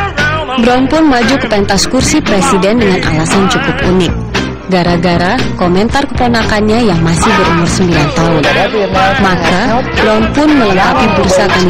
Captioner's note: non-english speech